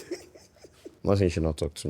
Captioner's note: laughing